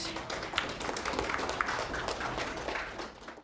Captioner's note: applause